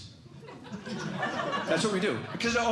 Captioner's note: laughter